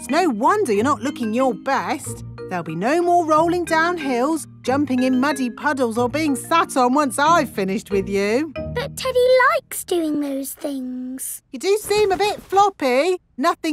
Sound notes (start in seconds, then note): none